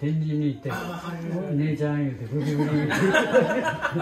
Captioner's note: laugh